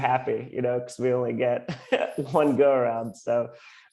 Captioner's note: laughs